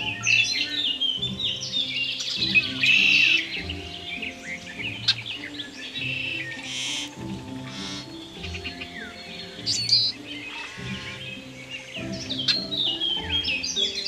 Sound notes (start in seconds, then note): 0.0 red winged blackbird sings